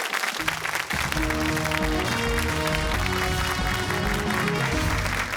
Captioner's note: cheers and applause